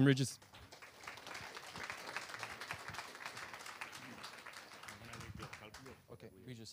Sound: applause

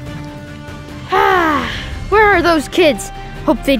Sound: grumbles

